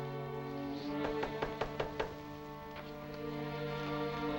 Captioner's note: knocking